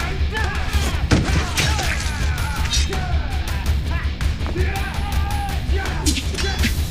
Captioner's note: thudding; guts squishing